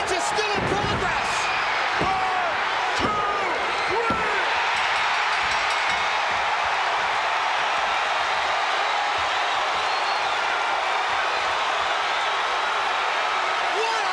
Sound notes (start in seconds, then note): 1.3 audience cheering; 4.4 bell ringing; 4.6 audience cheering